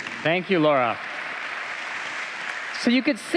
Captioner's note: applause